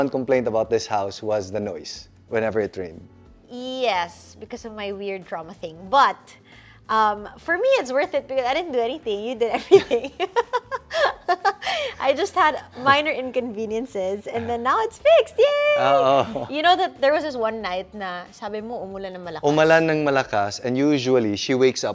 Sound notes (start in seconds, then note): 10.3 laughs